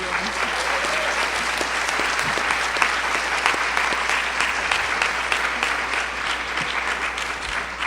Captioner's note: applause and cheering